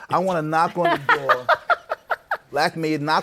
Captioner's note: laughs